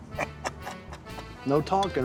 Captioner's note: laughing